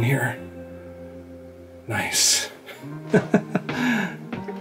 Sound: laughter

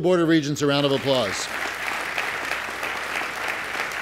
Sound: applause

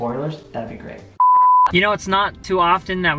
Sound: beep

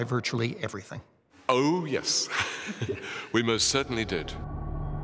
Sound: laughs

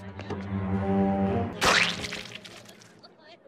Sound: s q u i s h

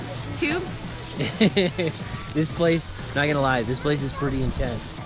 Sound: chuckles

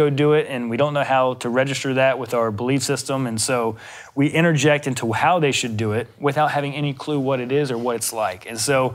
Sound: none

